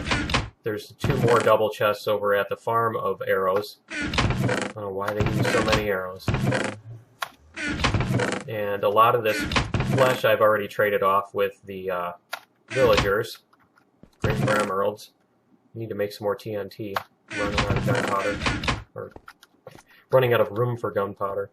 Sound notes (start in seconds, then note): 5.0 chests opening and closing; 6.2 chest closing; 6.2 chest opening